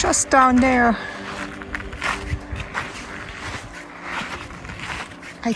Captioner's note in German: Schritte auf Kies